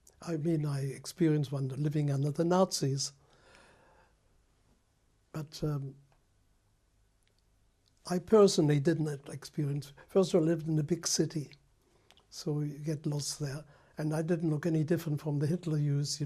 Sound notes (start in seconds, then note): 2.8 pauses for 3 seconds